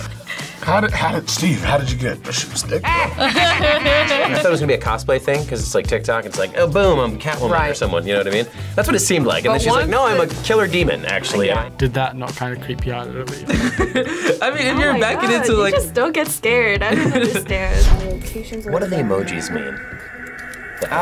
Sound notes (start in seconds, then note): 2.8 both laugh; 13.5 laughs